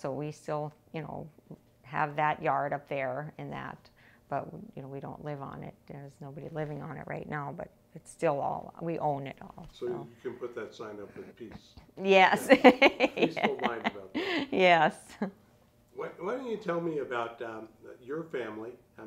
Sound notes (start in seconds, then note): 12.2 laughing